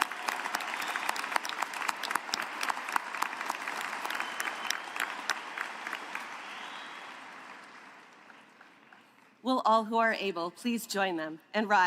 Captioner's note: applause